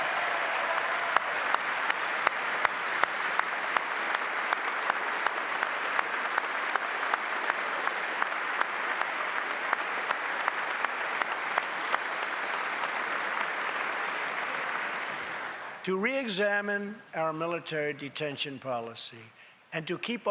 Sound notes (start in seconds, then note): 1.8 applause